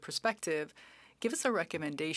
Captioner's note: speaking French